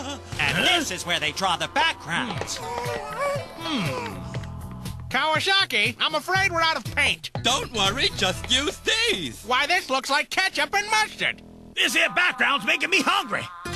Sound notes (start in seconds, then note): 2.2 Kirby mumbles happily